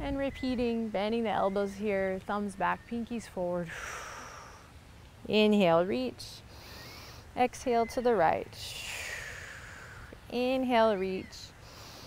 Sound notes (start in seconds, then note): 6.5 inhales; 8.8 exhales; 11.6 inhales